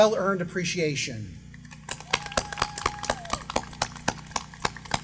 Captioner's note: applause